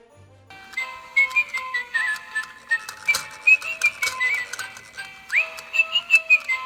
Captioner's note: mechanical birds whistling " "